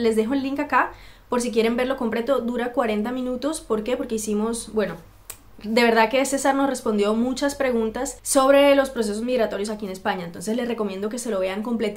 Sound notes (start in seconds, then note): 4.5 spanish only